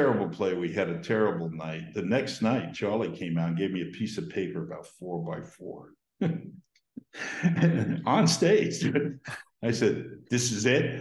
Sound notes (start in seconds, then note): 7.0 Dan Laughs